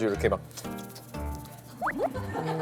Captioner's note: slurp, slurp, slurp